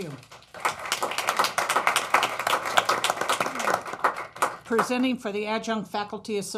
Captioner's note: applause